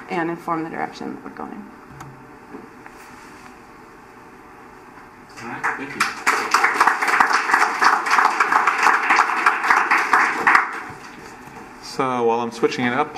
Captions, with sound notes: and inform the direction we're going. (applause) So while I'm switching it up